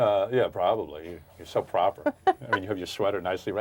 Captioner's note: laughing